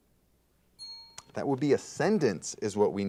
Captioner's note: bell rings